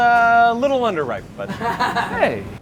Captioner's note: laughter